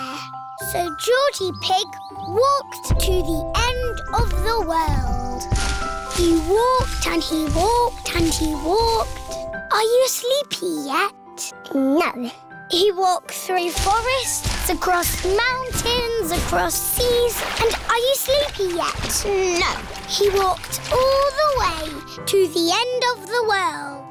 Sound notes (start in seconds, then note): none